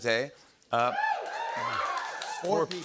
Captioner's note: cheering and applause